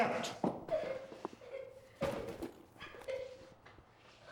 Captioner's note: Sandy crying